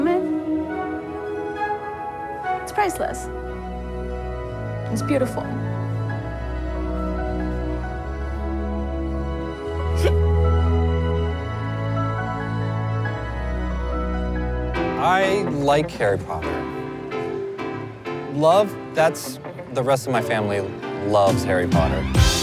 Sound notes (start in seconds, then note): 6.6 bright music; 9.9 mom sobs; 22.2 upbeat music